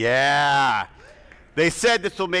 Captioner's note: attendees cheering